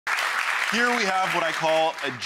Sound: audience applauds

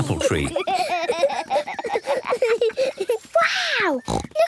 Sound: laughter

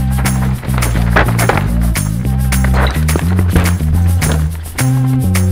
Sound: bike crunching dirt

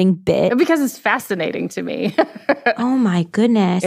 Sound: laughs

